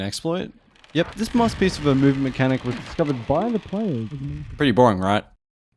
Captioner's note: wood creak